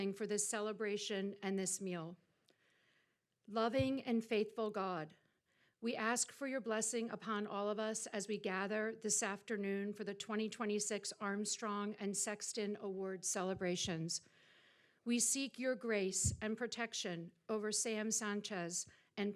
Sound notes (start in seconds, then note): none